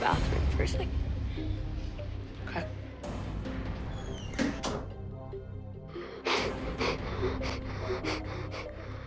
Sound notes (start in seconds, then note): 4.0 door closes; 6.8 crying